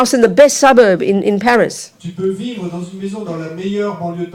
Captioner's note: speaking in French